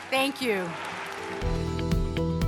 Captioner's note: cheers and applause